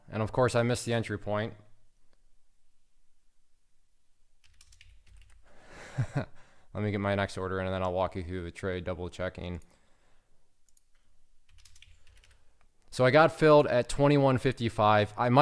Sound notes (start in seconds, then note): 5.8 laughing